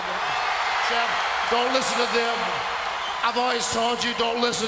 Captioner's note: spectators cheering